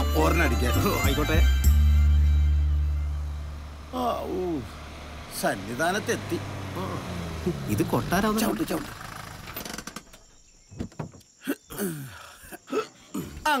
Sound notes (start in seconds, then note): 9.0 car engine stops; 10.6 car Door Open